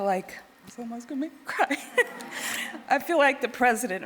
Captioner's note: crying